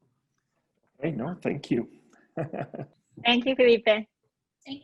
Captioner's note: giggles